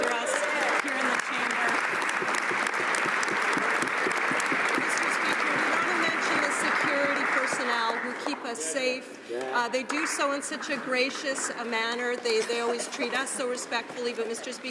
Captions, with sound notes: WERE MENTIONED BUT WE APPRECIATE SO MUCH THE PAGES DO, LOOK AFTER US HERE IN THE CHAMBER. [ Applause ] WE WANT TO MENTION THE SECURITY PERSONNEL WHO KEEP US SAFE. THEY DO SO IN SUCH A GRACIOUS